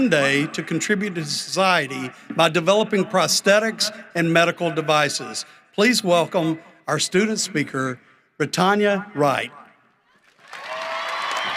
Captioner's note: applause